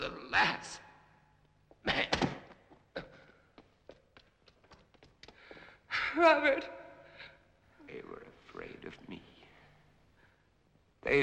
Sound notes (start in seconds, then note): 2.4 body collapsing